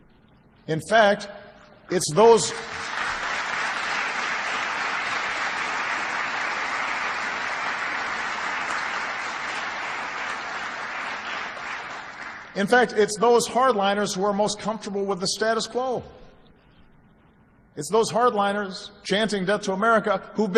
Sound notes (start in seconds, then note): 8.1 applause